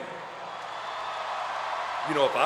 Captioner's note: crowd cheering